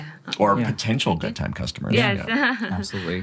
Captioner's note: laughs